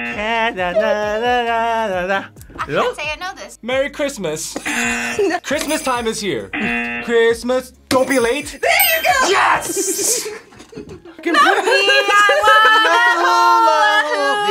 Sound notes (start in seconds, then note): 4.9 buzzer; 6.5 buzzer; 8.0 bells jingling